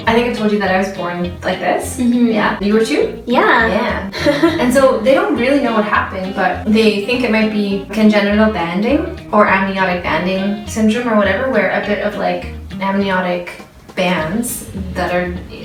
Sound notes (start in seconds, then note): 0.0 uptempo music; 5.6 laughs